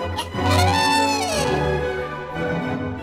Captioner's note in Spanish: trompetas de elefante